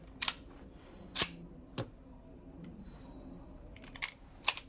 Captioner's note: gun clicking